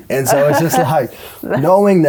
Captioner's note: laughter